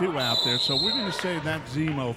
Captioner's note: referee whistling